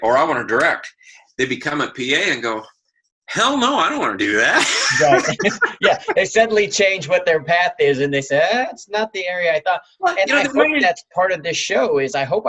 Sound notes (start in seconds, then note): 4.2 laughing